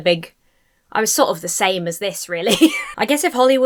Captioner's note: laughs